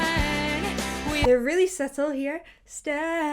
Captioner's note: bubble popping